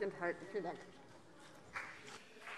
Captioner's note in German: Beifall BÜNDNIS 90/DIE GRÜNEN